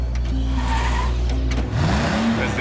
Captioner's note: tires squeal